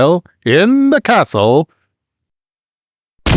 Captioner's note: Pod ship doors open; crash